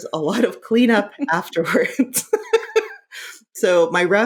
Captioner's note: laughing